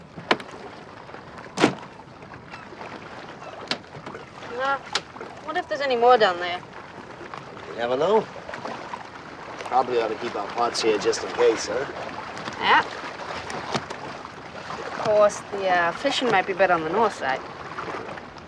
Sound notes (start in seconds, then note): none